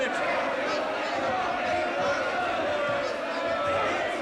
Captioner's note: angry shouting